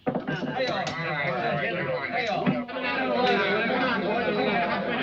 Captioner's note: players chattering